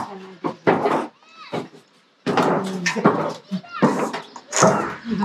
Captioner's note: footsteps drown out speech